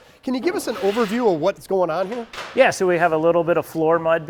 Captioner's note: trowels scraping